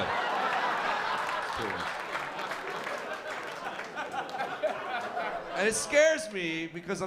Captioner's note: laughter